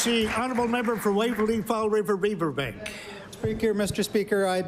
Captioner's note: applause